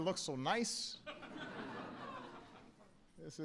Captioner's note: laughter